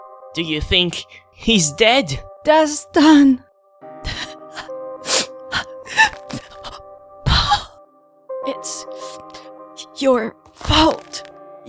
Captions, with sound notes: Do you think... he's dead? Dastan... *Cries* It's... your fault...